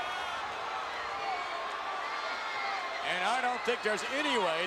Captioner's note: crowd cheering